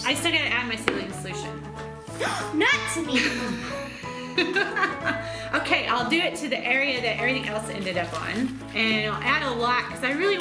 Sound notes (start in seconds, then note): 2.3 gasps; 3.1 laughs